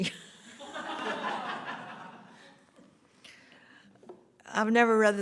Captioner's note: laughter